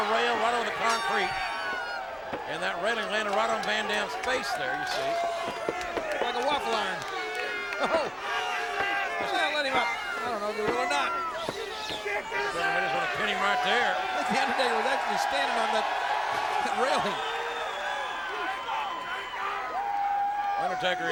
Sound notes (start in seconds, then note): 7.4 laughs; 16.1 laughs; 17.8 crowd cheering